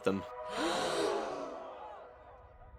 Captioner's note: people gasp